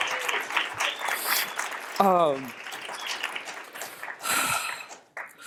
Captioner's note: cheering